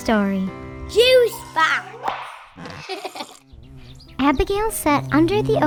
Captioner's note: laughs